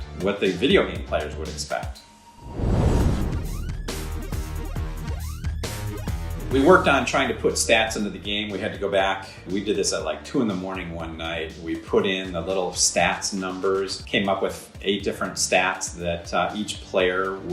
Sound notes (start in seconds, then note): 2.3 intense electronic music; 2.4 fire roaring